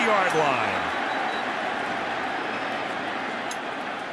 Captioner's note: whistle